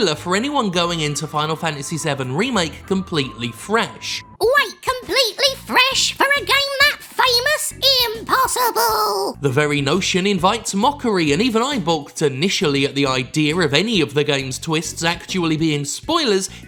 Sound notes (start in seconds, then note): 4.3 cartoonishly high-pitched voice